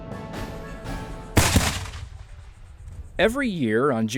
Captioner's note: gunshots